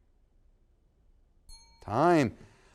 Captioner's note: bell sounds